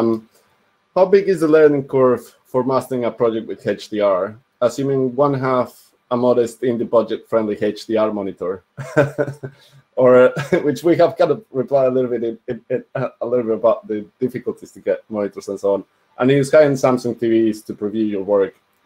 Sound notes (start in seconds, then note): 8.8 laughs